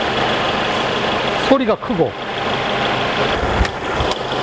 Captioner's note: engine